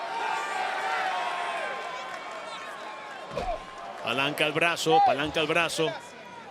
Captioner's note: applause